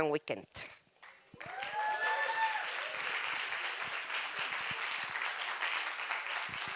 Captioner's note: applause